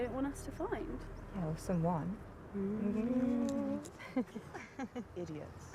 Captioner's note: both laughing